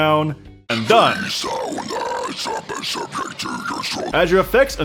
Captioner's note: Gurgling Gurglefied